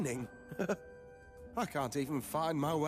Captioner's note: chuckles